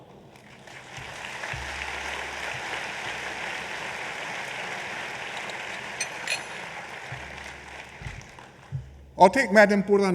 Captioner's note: applause